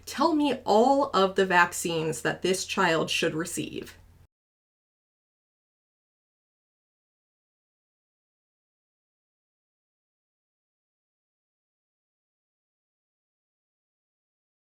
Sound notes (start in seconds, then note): 9.5 silence